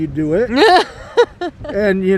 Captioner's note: laughs